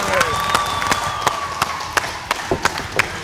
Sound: cheering

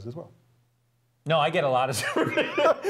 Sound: laugh

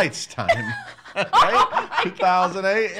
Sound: laughing

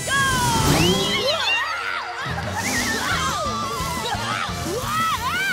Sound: screaming

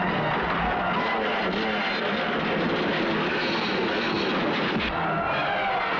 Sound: motorcycle engine revving

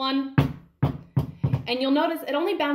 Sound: ball bouncing

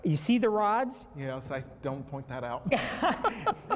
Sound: laughs

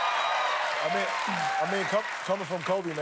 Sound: cheers and applause

